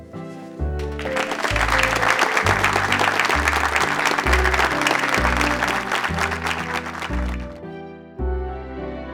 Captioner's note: clapping